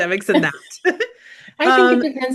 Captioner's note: both giggling